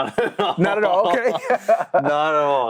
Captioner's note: both laughing